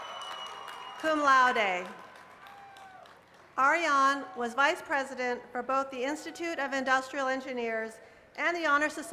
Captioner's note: cheers and applause